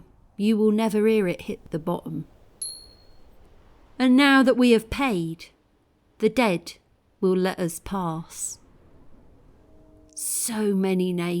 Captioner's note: penny clink